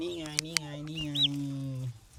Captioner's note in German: Zwitschern